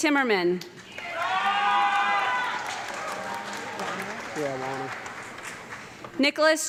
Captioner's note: audience clapping and cheering loudly